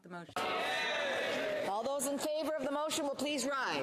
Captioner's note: speaking French